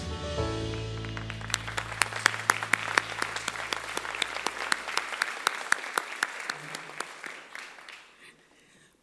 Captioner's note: applause